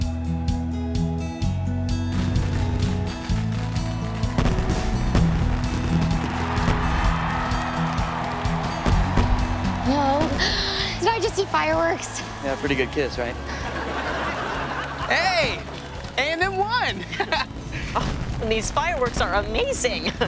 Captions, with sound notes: [fireworks exploding] [cheering] [gasps] Did I just see fireworks? Yeah, pretty good kiss, right? Hey! And they won! [laughing] These fireworks are amazing!